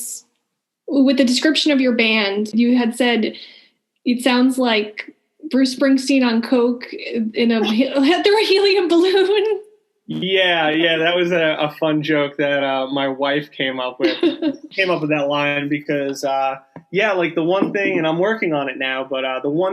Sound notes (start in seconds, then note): 7.3 laughing